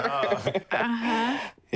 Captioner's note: laughs